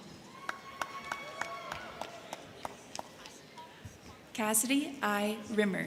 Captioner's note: crowd cheering; crowd clapping